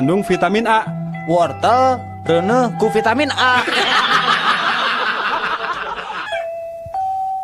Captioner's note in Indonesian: tertawa